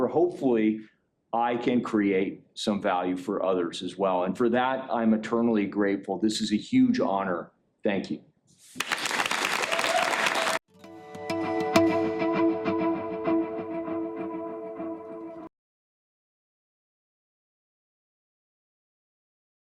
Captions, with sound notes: hopefully I can create some value for others as well. And for that, I'm eternally grateful. This is a huge honor. Thank you. (applause) (upbeat instrumental music)